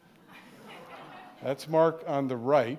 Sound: audience laughing

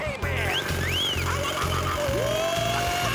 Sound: wolf whistling, whooping

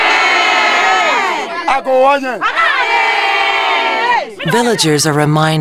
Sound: speaking in African

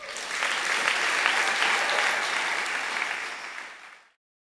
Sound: applause

